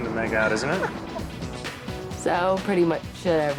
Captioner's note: laughs